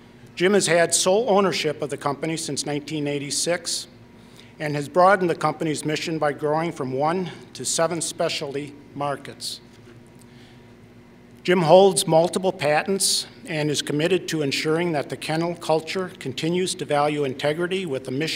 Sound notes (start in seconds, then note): none